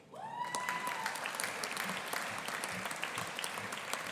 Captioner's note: audience applauding